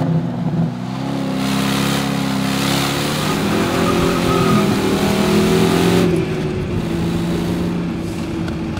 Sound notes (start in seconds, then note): 2.3 engine humming continues